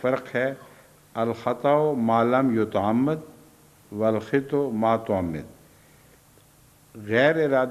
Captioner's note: Arabic